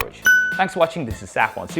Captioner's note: bell rings